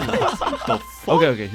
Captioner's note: general agreement